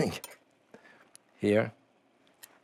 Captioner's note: laughs